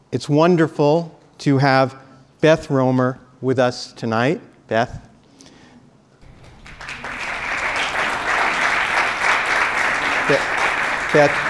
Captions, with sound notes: It's wonderful to have Beth Roemer with us tonight. Beth? (applause)